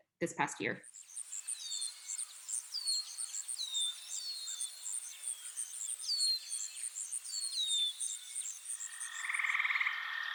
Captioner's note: birds and crickets chirping